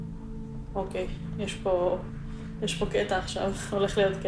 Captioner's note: Hebrew